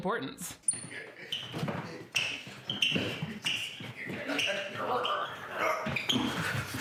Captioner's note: father and son chattering; shoes squeaking